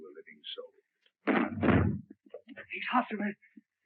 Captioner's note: banging on door